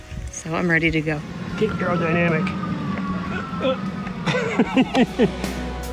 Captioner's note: laughs